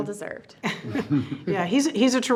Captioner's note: chuckles